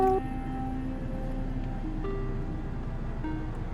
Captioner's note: truck purrs